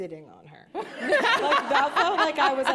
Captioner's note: laughter